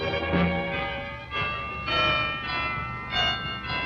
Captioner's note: bells ringing